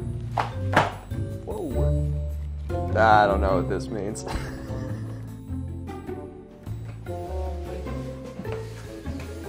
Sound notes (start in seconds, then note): 4.2 laughs; 6.1 mellow quirky music